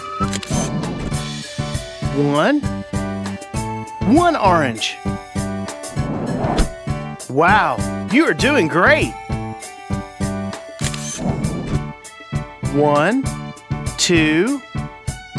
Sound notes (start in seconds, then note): 0.2 SFX: Camera Shutter; 10.8 SFX: Camera Shutter